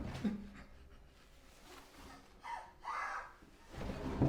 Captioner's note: crying